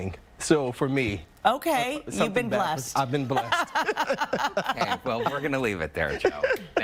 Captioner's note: laughter